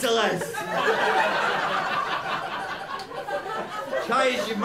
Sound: laughter

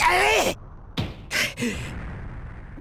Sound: angry breath

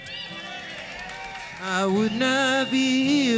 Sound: clapping

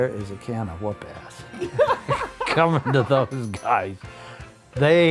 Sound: laughter

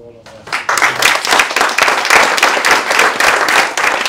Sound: applause

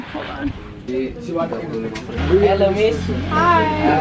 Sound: visitors speaking foreign language

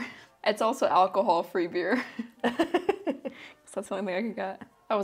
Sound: laughs

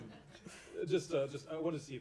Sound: laughter

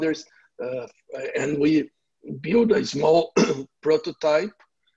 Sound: clears throat

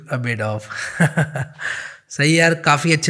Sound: laughing

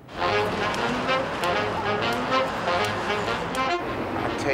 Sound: none

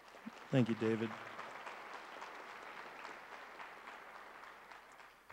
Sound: crowd applauds

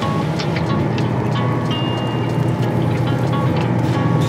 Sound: mixture bubbling

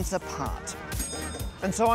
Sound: bell dings

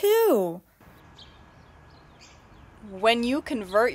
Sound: birds chirping

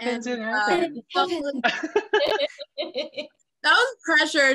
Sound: all laugh

